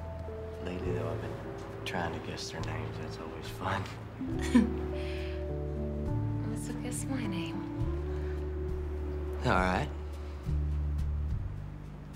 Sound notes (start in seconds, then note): 4.2 chuckling